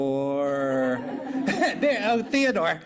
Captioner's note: laughter